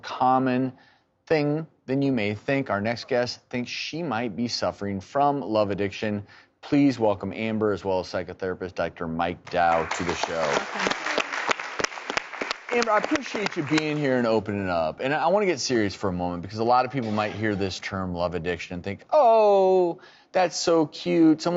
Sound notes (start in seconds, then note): 9.5 audience applauding